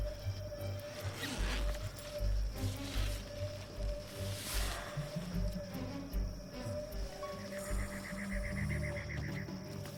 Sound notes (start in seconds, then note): 1.3 zipper scratching; 3.0 insects chirping; 3.0 tense music